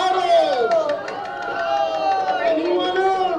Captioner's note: shouting